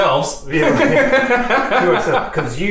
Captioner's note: laughs